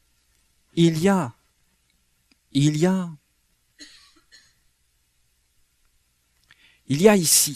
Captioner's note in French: raclement de gorge